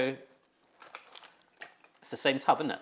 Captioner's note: orange juice sloshes